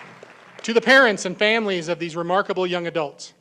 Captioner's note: applause